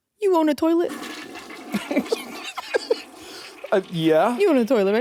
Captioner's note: toilet flushing; Jacksepticeye laughing